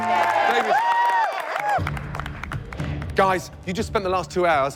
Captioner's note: cheers and applause